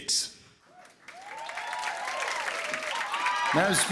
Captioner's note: cheers and applause